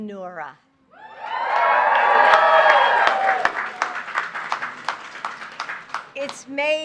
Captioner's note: applause